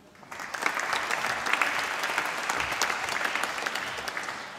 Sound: applause

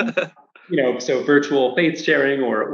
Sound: laughs

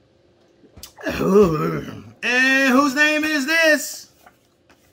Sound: grumbles

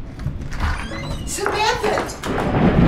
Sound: door creaking

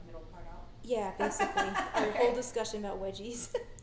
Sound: laughing

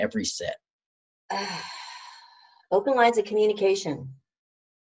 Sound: sighs

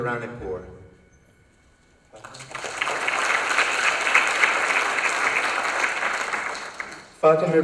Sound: applause

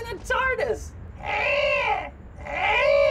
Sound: growls

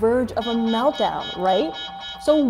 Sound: alarm blaring

